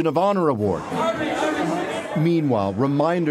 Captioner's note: speaking French